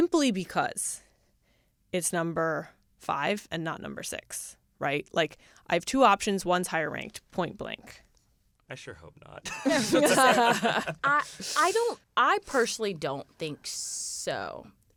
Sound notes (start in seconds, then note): 9.4 laughter